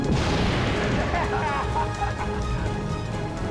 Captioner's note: all cheering